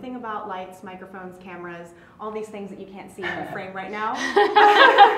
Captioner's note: laugh